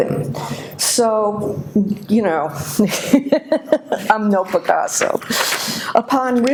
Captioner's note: laughs